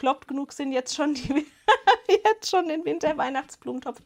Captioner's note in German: Gelächter